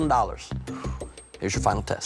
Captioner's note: exhales